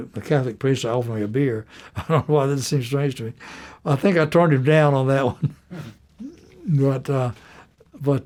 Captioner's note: laughter